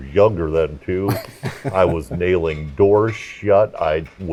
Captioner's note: laugh